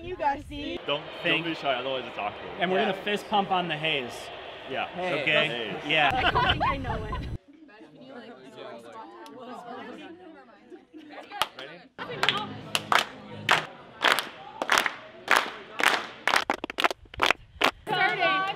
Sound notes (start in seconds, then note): 5.6 clapping; 6.0 laughter; 14.0 clapping